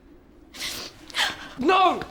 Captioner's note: crying